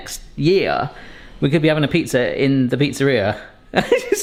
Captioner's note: chuckles